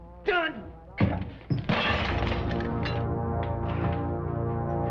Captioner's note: glass shattering